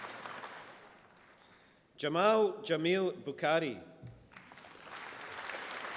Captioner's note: applause